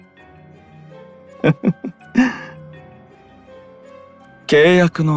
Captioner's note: laugh